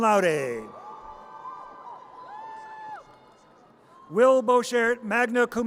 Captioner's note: audience cheers